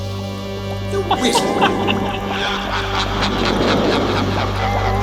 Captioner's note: manic laughter